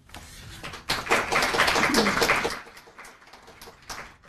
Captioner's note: applause